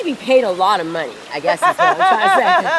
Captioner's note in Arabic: يضحك